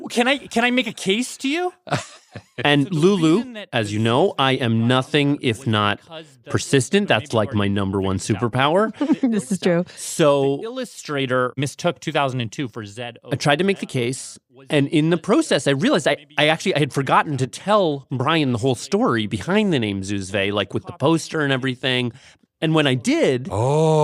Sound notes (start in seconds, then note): 8.8 laughs